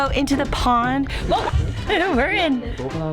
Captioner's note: laughs